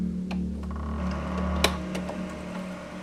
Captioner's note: VHS clicks